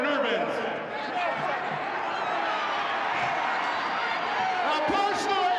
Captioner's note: audience chattering